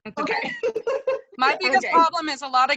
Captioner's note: laughter